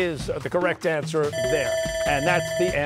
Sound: bell ringing

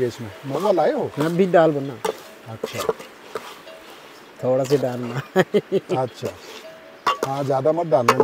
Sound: laugh

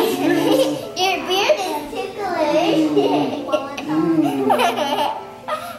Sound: laughs

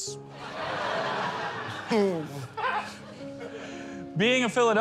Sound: laughter

